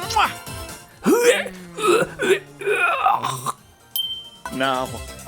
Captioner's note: barf sounds